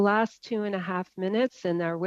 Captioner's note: speaking French